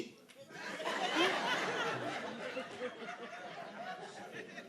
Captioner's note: audience laughing